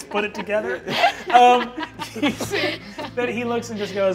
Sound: all laughing

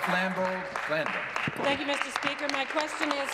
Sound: applause

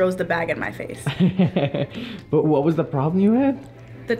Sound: chuckles

